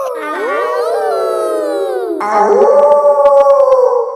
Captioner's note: kids howling; howling; wolf howling loudly